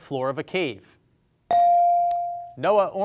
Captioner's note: bell sounding